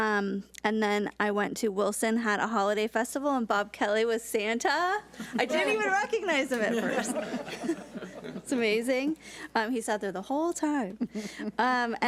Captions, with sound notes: And then I went to Wilson, had a holiday festival, and Bob Kelly was Santa, (board members chuckle) I didn't even recognize him at first! (all laugh) It's amazing. He sat there the whole time.